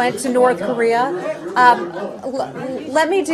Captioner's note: laughter